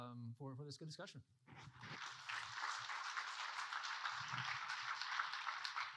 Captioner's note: audience applauding